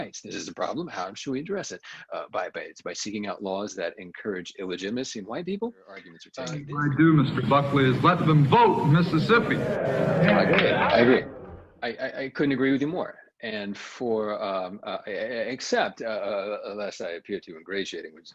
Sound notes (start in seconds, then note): 9.7 audience cheering